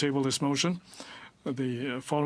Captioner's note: speaking french